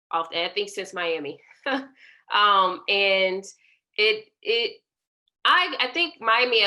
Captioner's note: laughter